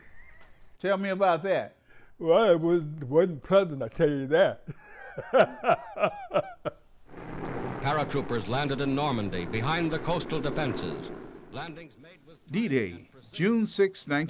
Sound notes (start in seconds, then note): 4.9 laughing